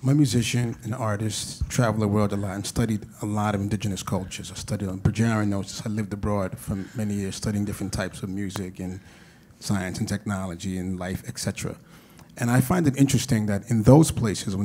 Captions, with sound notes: When musicians and artists travel the world a lot and I studied a lot of indigenous cultures. I studied (mutters). I've lived abroad for many years studying different types of music and science and technology and life, et cetera. And I find it interesting that in those places,